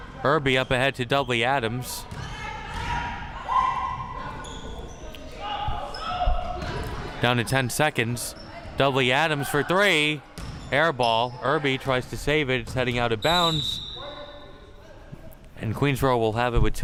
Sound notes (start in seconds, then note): 13.2 whistle chirping